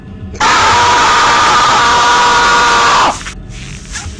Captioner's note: screm